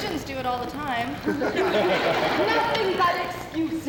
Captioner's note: laughter